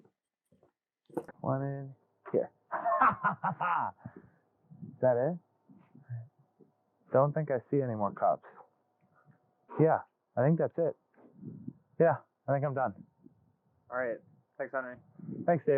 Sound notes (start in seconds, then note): 2.7 laughs maniacally